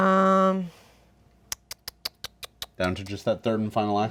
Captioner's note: tongue clicks